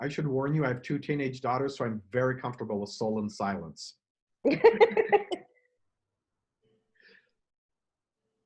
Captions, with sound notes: I should warn you I have two teenage daughters so I'm very comfortable with solemn silence. (laughing)